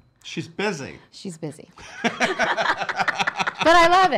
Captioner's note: laughing